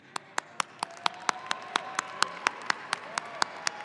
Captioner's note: audience applauding